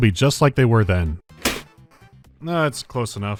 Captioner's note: smack